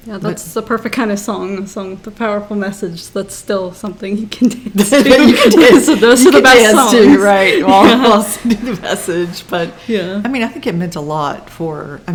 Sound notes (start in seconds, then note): 4.8 laughs